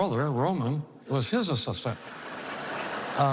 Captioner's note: laughter